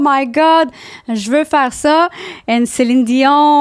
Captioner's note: in french